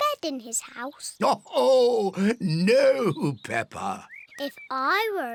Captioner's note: laughs